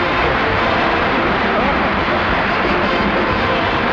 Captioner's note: audience applauding